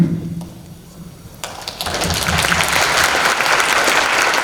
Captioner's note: applause